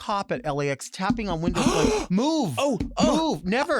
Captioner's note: gasps